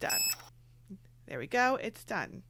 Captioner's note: beeping